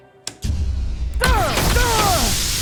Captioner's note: gunshots